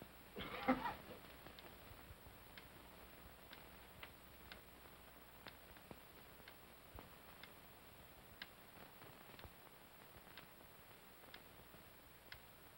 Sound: clock ticks softly

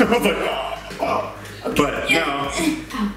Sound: gasping for breath

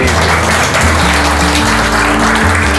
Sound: applause

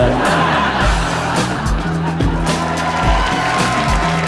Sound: audience laughing; applause

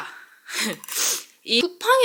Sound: sniff

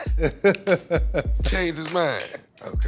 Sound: laughter

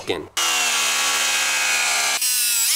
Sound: sawing noise; fast-forward sound

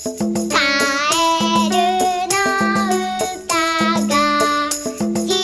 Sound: frog songs

